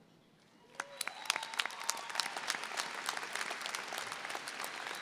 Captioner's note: audience applauding